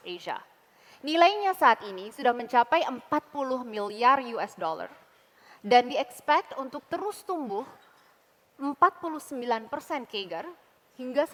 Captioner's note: non-english speech